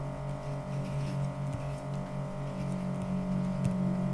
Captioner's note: pen scribbles